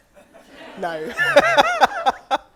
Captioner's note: audience laughs